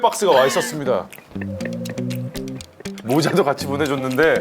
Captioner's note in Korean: 아이고